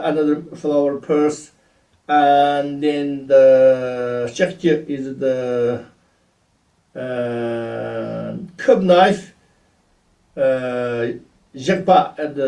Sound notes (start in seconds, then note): 3.5 tibetan; 10.0 tibetan